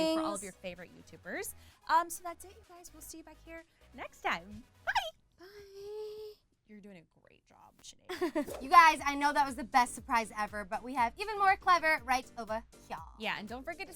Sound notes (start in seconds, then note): 5.9 loud swooshing